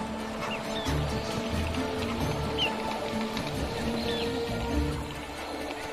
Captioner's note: soaring orchestral music; wings flapping